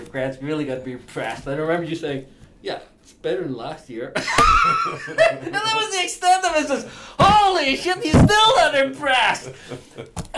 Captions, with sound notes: Grant's really gonna be impressed. I remember you saying, "Yeah, it's better last year." (laughing loudly) And that was the extent, and I says, "Holy shit, he's still not impressed."